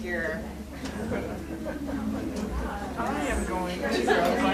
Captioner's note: people chattering